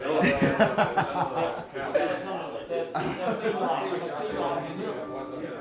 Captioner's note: laughter